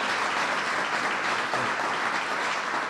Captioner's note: applause